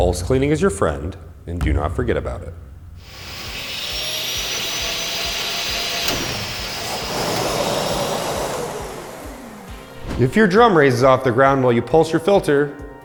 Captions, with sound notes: Pulse cleaning is your friend, and do not forget about it. [Supercell whirs up and down] If your drum raises off the ground while you pulse your filter...